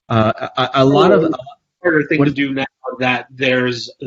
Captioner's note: Jose's mic warbles